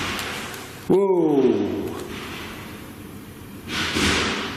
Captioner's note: loud banging